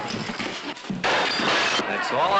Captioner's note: glass shattering